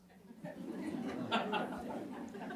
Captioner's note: laughs